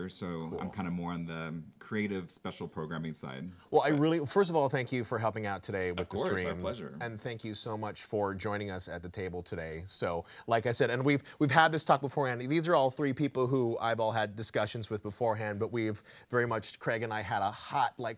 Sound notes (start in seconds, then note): none